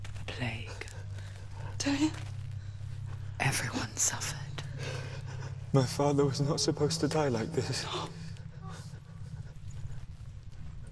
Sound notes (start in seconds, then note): 7.3 sob